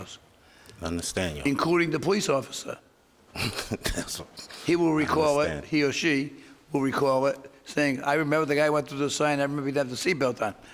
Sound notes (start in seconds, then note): 3.4 laughs